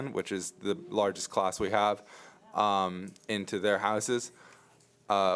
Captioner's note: none